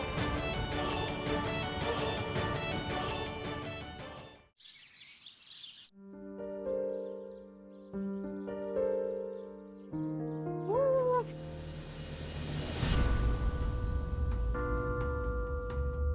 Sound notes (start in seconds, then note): 4.5 birds chirping; 11.2 tense music